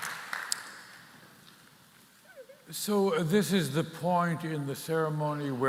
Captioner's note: applause